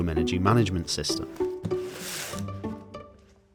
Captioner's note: box scrapes